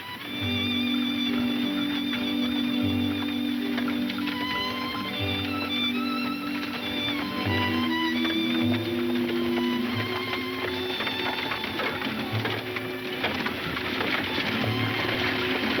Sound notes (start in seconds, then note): 0.2 soothing music; 5.5 hooves clomping